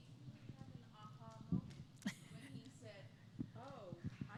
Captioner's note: laughter